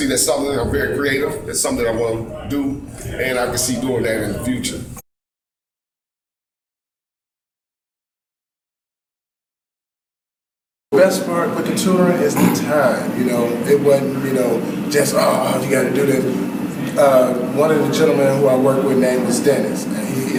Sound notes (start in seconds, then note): 5.3 silence